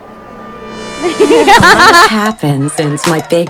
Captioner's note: laughing